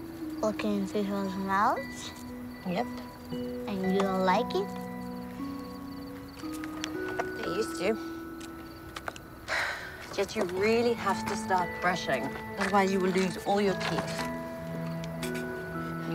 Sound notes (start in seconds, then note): 9.4 Olive sighs